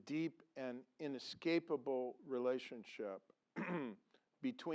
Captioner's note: cough